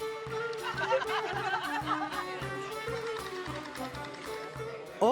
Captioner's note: laughter